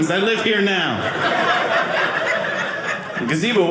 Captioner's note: audience laughing